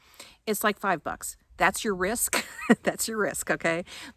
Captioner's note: chuckles